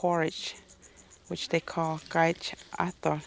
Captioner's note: speaks native language